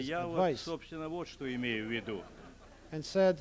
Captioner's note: non-english speech